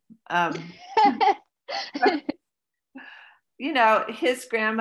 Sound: laughs

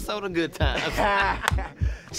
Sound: laughing lightly

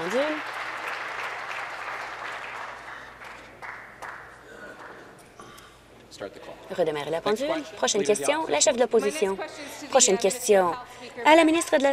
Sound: some Applause

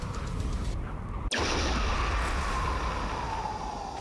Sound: explosion

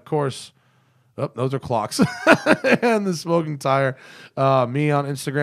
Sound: laughter

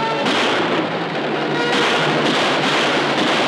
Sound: gun firing

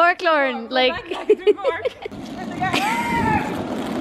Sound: laughs

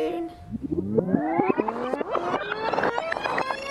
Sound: fast-forwarding sound

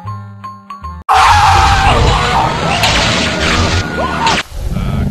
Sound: screaming, electrocution noises

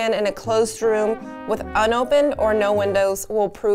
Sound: none

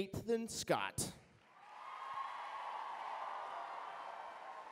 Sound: cheering

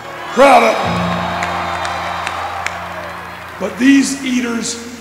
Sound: cheering

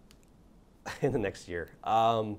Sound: laughs

